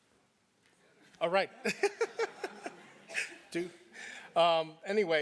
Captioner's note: laugh